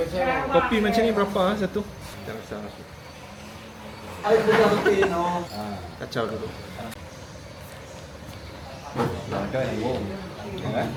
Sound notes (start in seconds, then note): 4.3 laugh